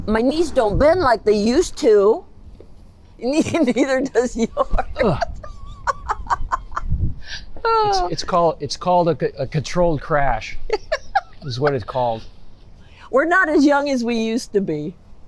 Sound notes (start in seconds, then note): 4.8 laughing